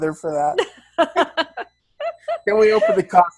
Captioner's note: laughs